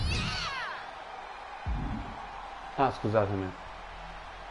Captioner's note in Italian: Applauso